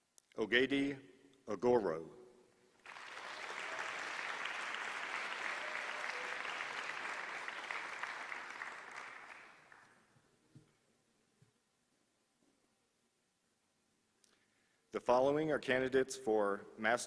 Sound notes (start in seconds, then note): 2.8 applause